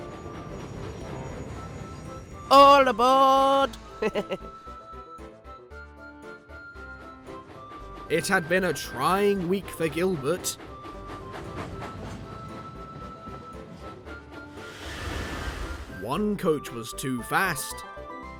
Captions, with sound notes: "All aboard!" [GILBERT CHUCKLES] It had been a trying week for Gilbert. One coach was too fast...